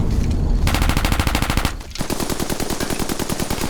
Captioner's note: gunfire